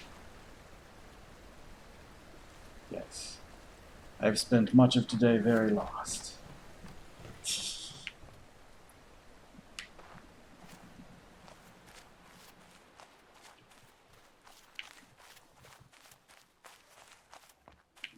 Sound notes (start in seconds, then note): 7.4 tittering